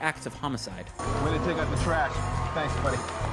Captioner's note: cheers, Applause